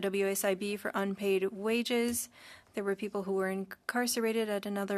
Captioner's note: speaking French